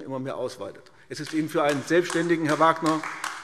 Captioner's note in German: Beifall AfD